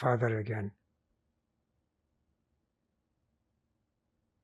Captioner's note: pauses 6 seconds